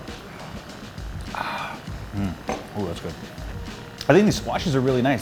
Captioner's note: breathes